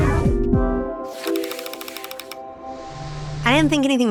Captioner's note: gears turning